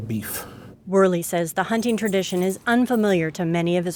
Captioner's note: voiceover